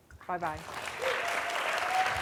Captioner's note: applause